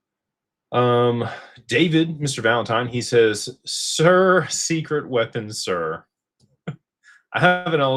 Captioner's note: laughter